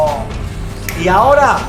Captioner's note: finger snaps in Spanish